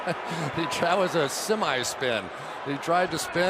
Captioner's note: laughs